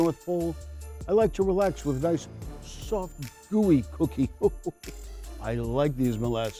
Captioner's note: chuckles